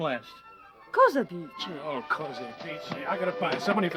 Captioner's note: speaking foreign language